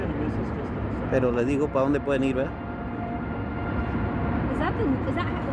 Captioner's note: bystanders chattering; cameraman speaks in foreign language; siren blaring